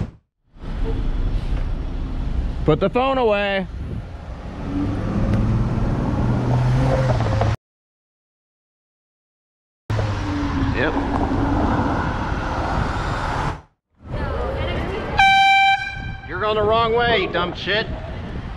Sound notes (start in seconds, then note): 15.1 airhorn